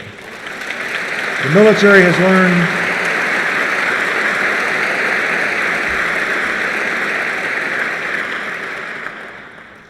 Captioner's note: applause